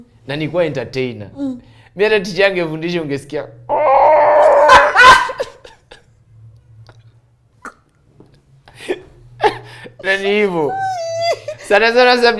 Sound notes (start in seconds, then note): 3.7 sound of a cock crowing